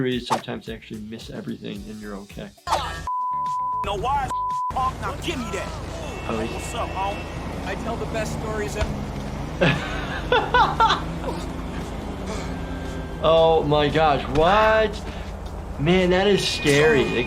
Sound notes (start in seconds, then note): 3.0 beep; 9.5 laughing